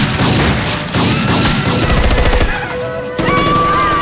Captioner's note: none